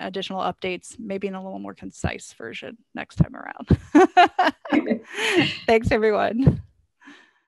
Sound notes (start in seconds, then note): 3.7 laughs